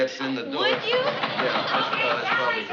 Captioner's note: vigorous knocking